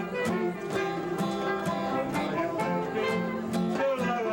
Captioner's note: none